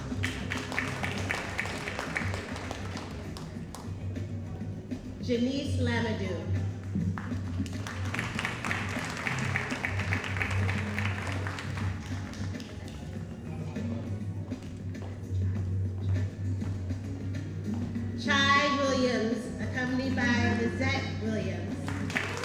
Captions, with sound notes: (audience applauding) Janice Lanaduke. (audience applauding) Chai Williams, accompanied by Lyzette Williams.